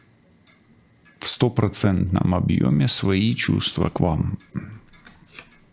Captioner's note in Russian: откашливается